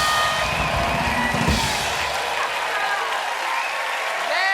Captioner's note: cheers and applause